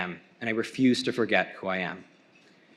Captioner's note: none